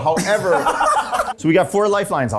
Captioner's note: laughing